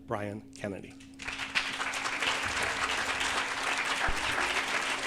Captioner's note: audience applauding